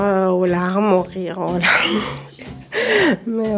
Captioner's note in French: elle rit